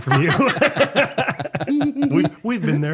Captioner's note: laughing